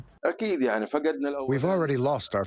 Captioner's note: through translator